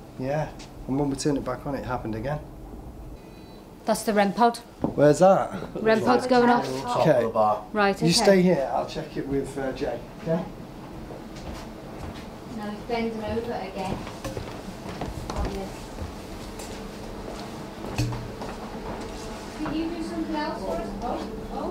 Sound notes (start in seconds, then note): 3.0 rem pod beeping